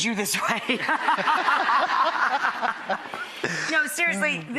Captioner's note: laughter